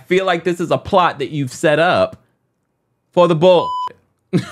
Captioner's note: beep